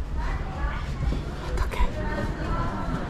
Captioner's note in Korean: 속삭